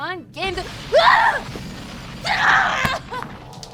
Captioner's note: screams